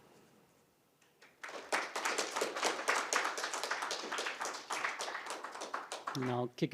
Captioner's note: applause